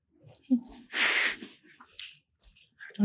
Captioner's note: chuckles